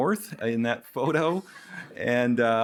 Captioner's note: chuckles